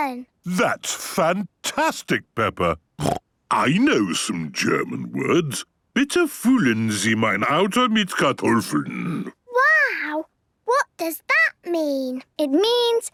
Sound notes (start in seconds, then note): 0.0 snorting; 3.0 snorting; 5.9 speaking German